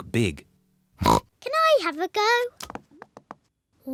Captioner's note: oinks